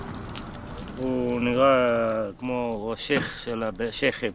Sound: speaking arabic

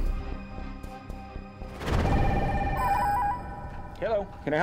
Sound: phone ringing

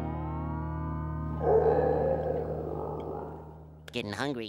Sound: stomach growling

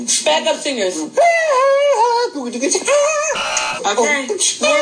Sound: beatboxing; buzzing

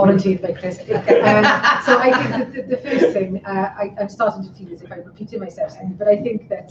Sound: laughter

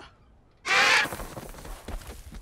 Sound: squawks

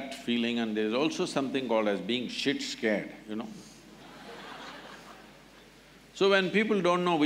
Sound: laughter

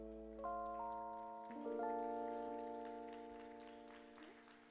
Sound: audience applauding

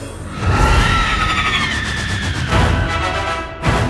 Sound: eagle squeals

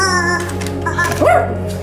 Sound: honking; dog barking

